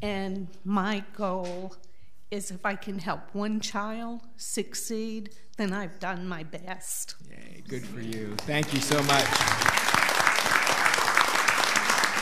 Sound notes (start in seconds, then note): 10.6 all applauding